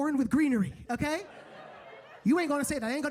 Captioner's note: audience laughing